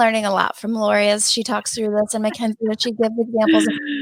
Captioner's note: talks quickly and quietly